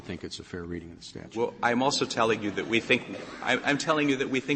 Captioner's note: laughter